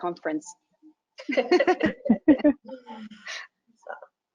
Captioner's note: laughing